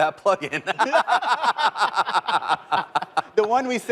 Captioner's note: laughter